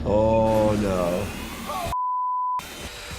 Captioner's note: machine whirs